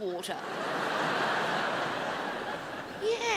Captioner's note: crowd laughs